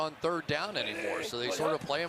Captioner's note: cheering